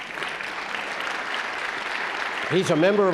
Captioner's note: audience claps